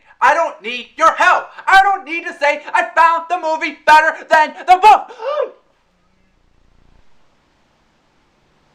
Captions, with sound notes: I DON’T NEED YOUR HELP. I DON’T NEED TO SAY I FOUND THE MOVIE BETTER THEN THE BOOK. [gasp]